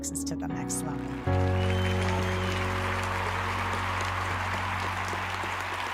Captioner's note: audience cheering and applauding